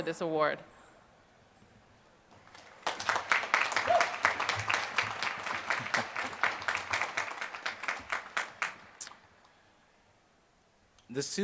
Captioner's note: applause